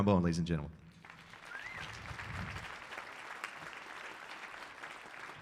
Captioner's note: audience applauding